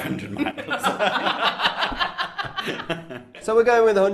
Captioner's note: laughter